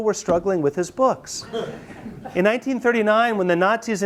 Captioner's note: students laugh